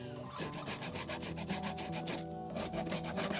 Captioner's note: scraping